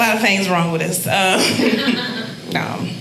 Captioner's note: audience laughing